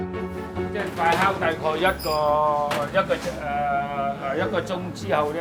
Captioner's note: speaking Cantonese